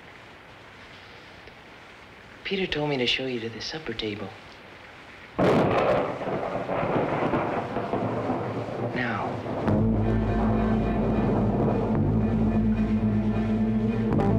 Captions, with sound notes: Peter told me to show you to the supper table. [thunder] Now.